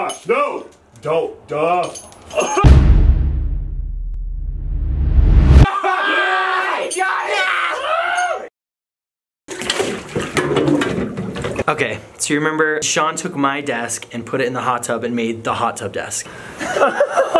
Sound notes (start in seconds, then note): 2.6 dramatic boom; 7.2 cheering and excited clamoring; 17.1 laughing